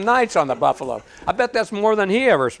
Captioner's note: audience laughing